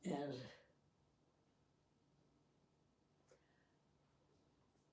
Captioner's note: pauses 6 seconds